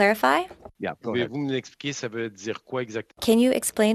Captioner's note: speaking in French